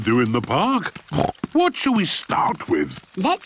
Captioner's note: snorts